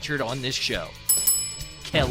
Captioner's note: bell chimes